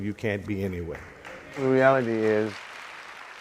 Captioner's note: crowd applause